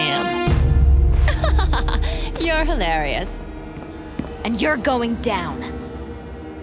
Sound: laughing

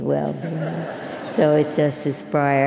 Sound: laugh

